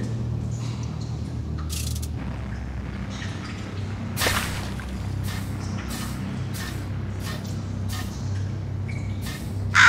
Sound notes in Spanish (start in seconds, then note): 5.5 Pasos animatrónicos distantes